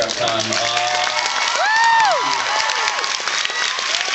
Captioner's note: cheers and screams; continues to cheer and applaud